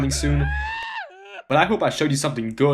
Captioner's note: guy crying